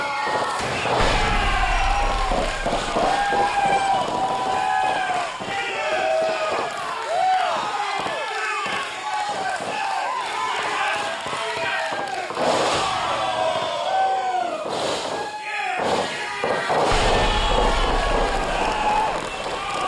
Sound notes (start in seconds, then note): 5.9 applause; 8.9 cheering